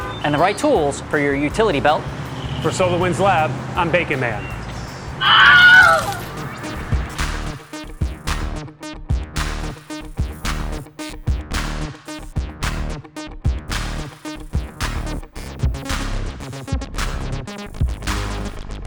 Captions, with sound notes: - And the right tools for your utility belt. - For SolarWinds Lab, I'm Bacon Man. [screams] [upbeat music]